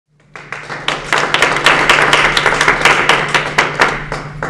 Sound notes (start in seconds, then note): 0.2 audience applauding